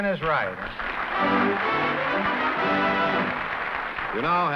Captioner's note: applause